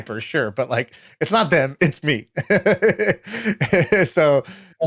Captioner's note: laughs